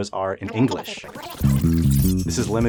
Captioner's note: high-pitched hissing